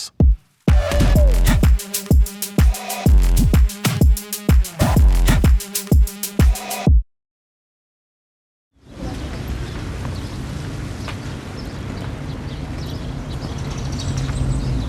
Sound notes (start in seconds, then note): 0.6 energetic music; 8.8 birds chirping